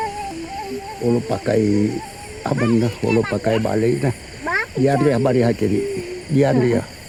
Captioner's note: speaking in foreign language